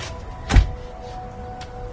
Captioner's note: door closes